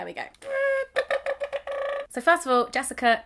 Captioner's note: tooting noises